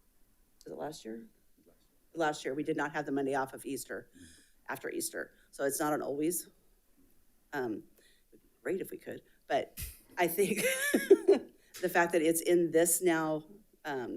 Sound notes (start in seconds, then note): 9.0 chuckling; 10.4 laughing